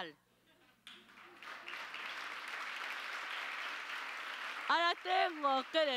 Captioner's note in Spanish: Aplausos